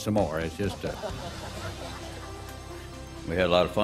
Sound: laughing

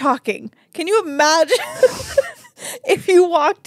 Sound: laughs

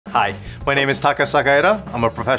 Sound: air whooshing

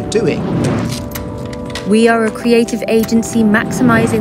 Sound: woman's Voice

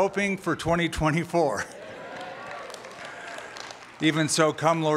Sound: applause

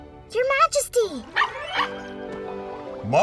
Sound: barking

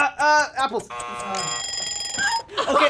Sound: buzzer; timer ringing; all laugh

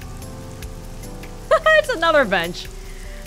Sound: chuckles

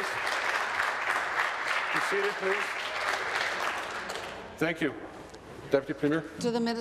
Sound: applause

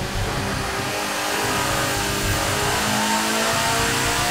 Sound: engine roars

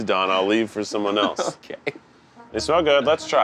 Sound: laughing

